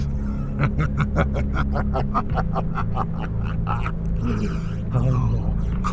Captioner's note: The Yellow Rabbit sinisterly laughs